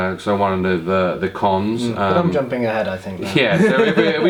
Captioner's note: laughs